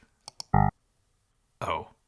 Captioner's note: buzzer buzzes